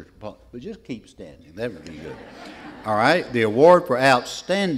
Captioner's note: laughter